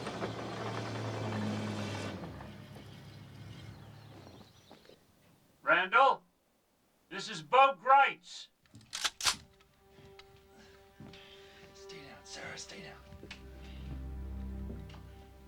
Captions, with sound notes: RANDALL, THIS IS BO GRITZ. [cocking gun] STAY DOWN, SARA, STAY DOWN.